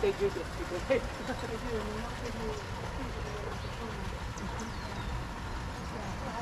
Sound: birds chirping

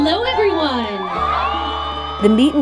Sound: crowd cheering

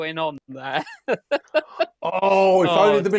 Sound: laughs

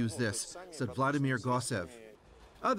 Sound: speaking russian

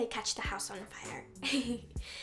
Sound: chuckles

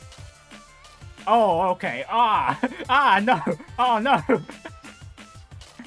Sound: sounds of pain

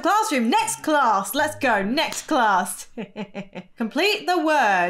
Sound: chuckles

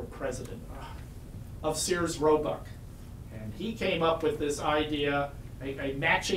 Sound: groans

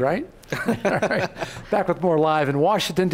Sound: laughing

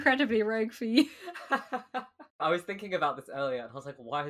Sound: laughs

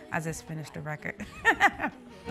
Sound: laughing

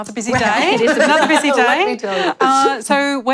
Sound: laughter

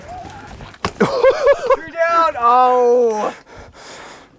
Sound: laughing

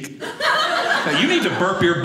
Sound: audience laughing

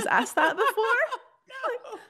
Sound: laughing

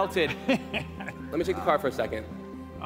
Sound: laughs

